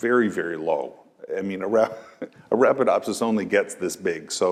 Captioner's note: laugh